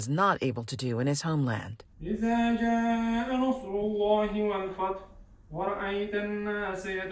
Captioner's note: men praying in foreign language